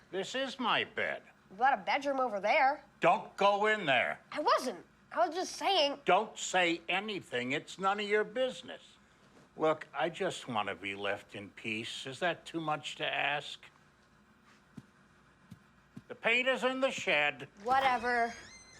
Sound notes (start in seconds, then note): none